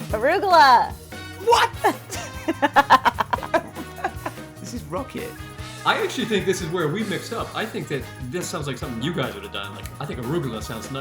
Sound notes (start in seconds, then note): 1.4 laughs